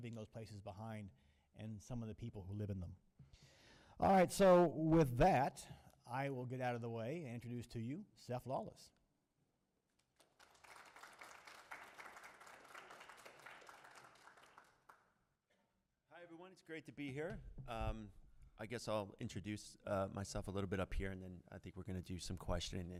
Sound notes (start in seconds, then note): 9.9 applause